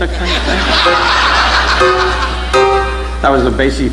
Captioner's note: audience laughing